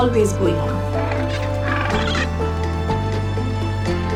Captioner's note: penguins quacking